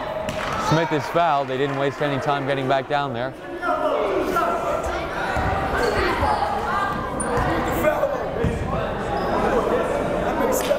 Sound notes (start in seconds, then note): 5.6 yelling